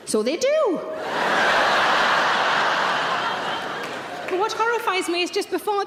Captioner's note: audience laughing